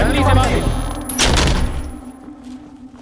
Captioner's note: Door closing